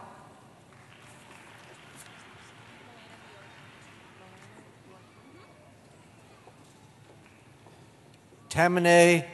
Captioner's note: applause